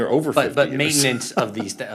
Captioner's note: laughter